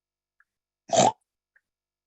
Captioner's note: snort